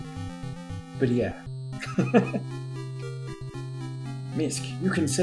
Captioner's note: chuckles